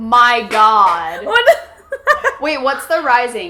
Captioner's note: laughs